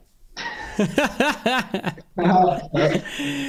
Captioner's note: laughs